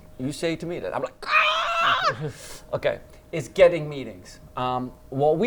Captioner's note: shrieks